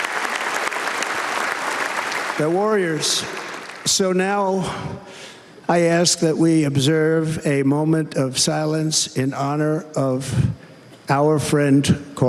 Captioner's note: cheers and applause